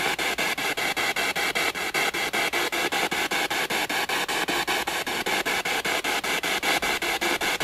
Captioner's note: radio noise from the spirit box